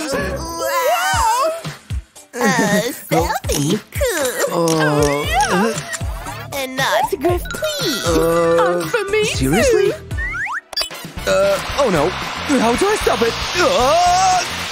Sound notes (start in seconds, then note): 3.9 groans